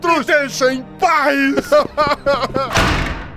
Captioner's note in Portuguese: corre chorando